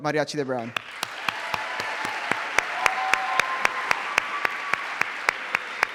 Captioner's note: cheering